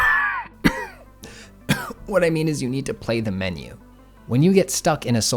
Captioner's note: cough